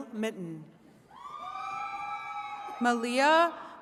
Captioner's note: attendees cheering